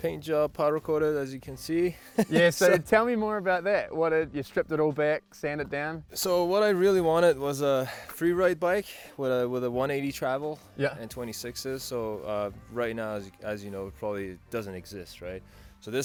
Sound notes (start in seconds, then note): 2.0 laughs